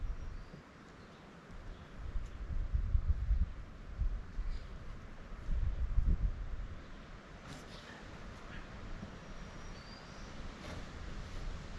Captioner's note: wind blowing